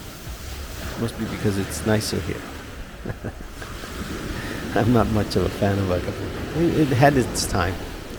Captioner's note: laughs